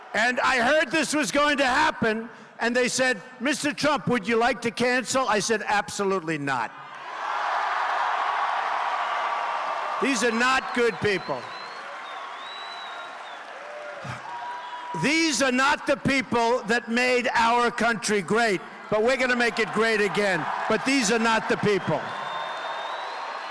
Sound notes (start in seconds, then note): 16.4 cheers and applause